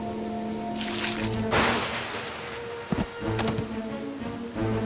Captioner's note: thunder crashing